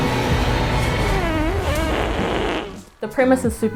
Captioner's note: flatulence